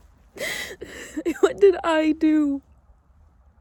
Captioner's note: chuckles through light tears; inhales sharply